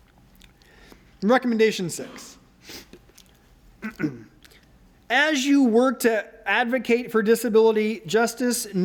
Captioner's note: ahem